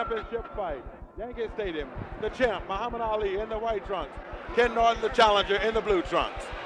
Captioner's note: bell sounds